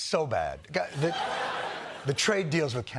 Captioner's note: laughter